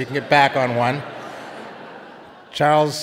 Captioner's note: audience laughing